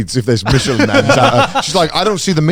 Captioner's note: laughs